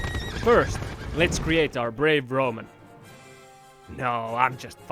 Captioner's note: man screams, horse whinnies